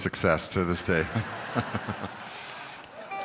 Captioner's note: chuckling